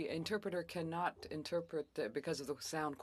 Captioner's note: speaking French